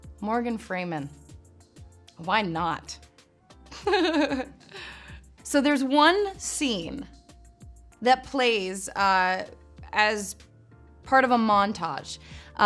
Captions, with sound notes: Morgan Freeman. Why not? (laughs) So there's one scene that plays as part of a montage,